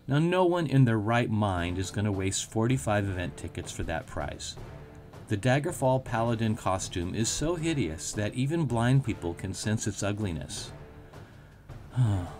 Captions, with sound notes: No one in their right mind is going to waste 45 event tickets for that prize. The Daggerfall Paladin costume is so hideous that even blind people can sense its ugliness. (sigh)